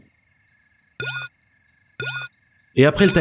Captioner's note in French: bruit du timer